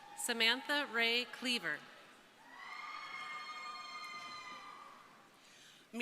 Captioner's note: crowd cheering